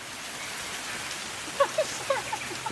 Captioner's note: leaves shaking sound